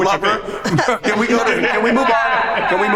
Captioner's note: group laughs